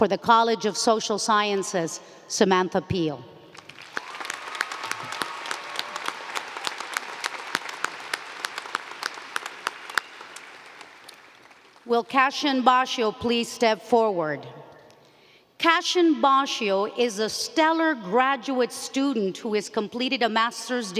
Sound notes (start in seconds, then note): 7.4 applause